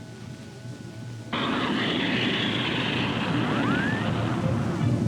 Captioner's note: monitor rumbling